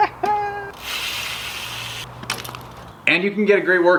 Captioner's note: laughing; pedals clicking